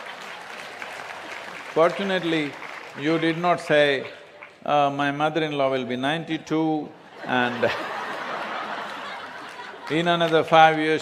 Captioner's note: laughter/Applause; laughter